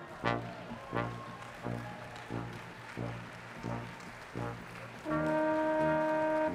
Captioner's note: audience clapping softly